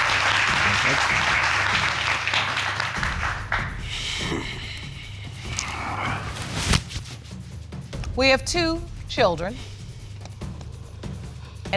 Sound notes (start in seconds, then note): 3.8 sighs